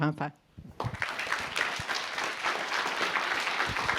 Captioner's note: applause